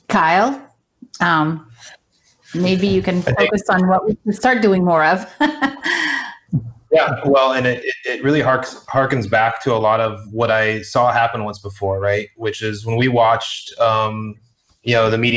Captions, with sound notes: - Kyle... maybe you can focus on what we can start doing more of. [chuckles] - Yeah, well, and it really harkens back to a lot of what I saw happen once before, right? Which is when we watched, you know,